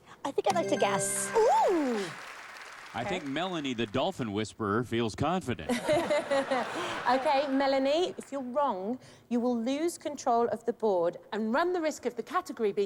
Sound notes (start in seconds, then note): 5.6 laughter